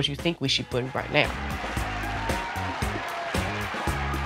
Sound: crowd cheers

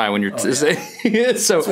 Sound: laughs

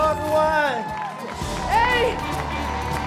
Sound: cheering

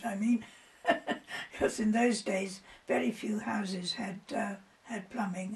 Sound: laughs

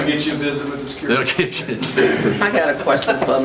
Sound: laughs

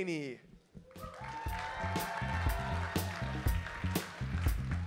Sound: audience cheers

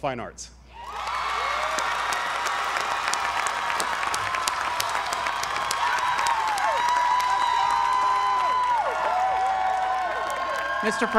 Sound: applause

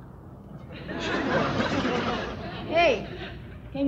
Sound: audience laughs

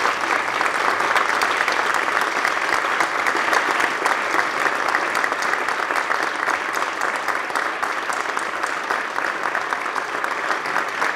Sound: applause

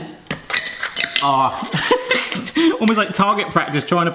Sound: laughs

